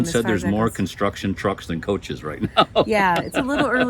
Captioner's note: laughs